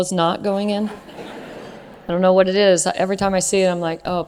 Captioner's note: laugh